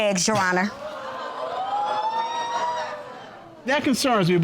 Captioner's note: audience laughing and gasping